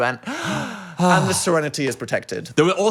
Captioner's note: gasps